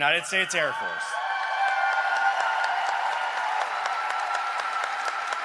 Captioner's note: cheering and applause